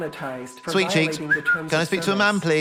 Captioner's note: whistles